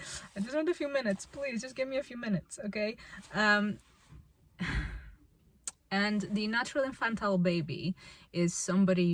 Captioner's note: sighs